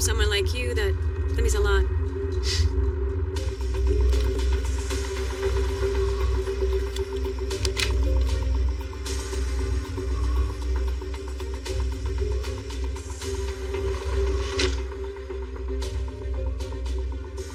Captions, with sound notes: that--that m means a lotot. [tense musicic] [door openens]